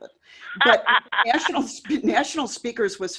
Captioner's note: laughs